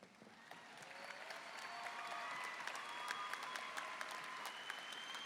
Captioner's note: applause and cheering